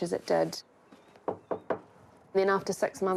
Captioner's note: knock on door